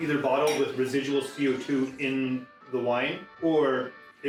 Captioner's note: glass clanking